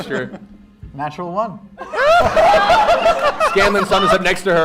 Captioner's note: laughter